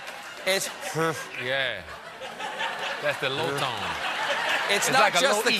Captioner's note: laughter